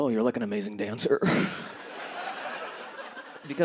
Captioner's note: laughter